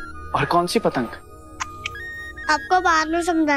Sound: clicks tongue

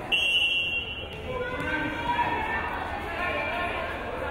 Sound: whistle blows

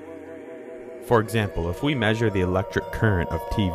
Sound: voiceover

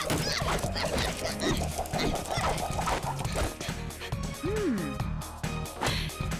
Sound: grunting

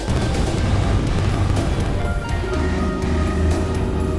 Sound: bout motor roaring

